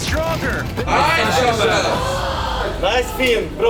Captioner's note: team cheering